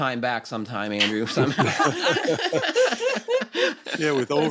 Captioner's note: laughter